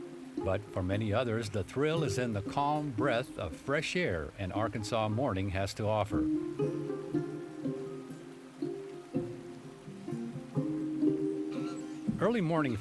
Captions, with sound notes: But for many others, the thrill is in the calm breath of fresh air an Arkansas morning has to offer. (gentle music) (water flowing)